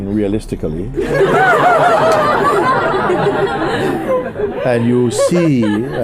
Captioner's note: laughter